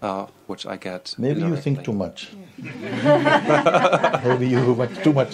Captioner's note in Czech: smích